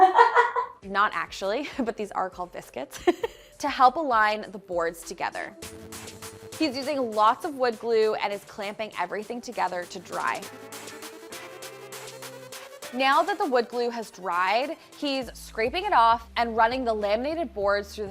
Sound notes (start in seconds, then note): 0.0 crew member laughs; 2.9 chuckles; 11.1 bright music